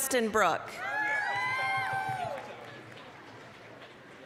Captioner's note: applause, cheering